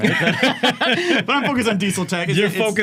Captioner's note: laughing